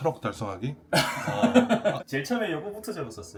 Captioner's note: laughs